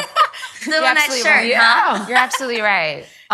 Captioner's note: ladies laughing